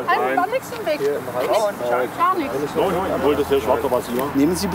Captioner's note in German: Stimmengewirr